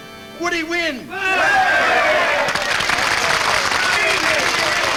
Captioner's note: people cheer